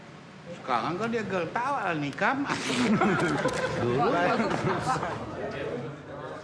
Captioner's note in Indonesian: hadirin tertawa